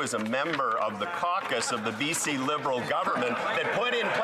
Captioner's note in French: voix de l'interprète